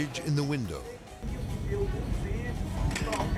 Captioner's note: speaking Portuguese; camera clicks